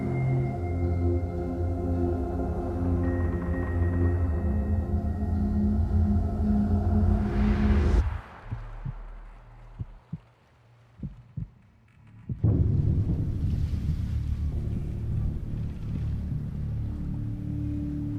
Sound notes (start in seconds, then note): 8.2 heartbeat thumping; 12.4 worrisome music